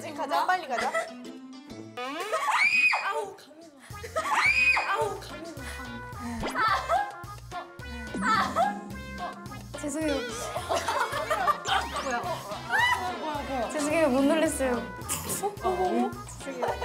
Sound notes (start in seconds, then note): 13.0 it's scary but they can't stop laughing